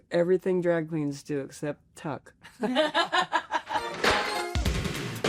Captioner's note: laughs